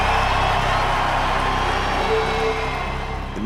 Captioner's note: cheers intensify